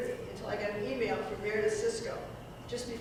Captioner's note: none